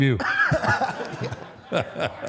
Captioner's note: audience and AJ laughs